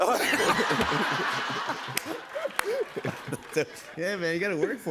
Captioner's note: laughter